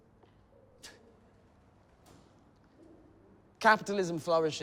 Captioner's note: scoffs